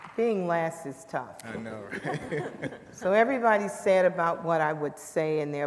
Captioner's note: applause